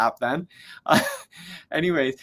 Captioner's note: chuckles